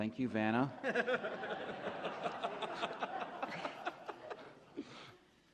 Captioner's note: laughter